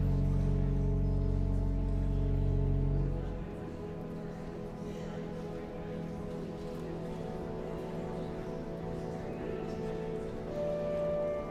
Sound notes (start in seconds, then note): 2.7 guests chattering; 2.7 solemn music continues